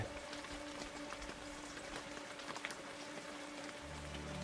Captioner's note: rain pattering